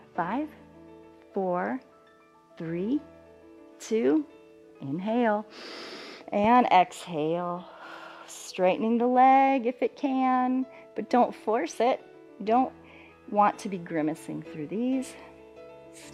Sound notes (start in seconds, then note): 5.4 exhales; 5.4 inhales